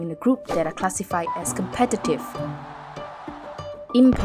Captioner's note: Olympic stadium cheers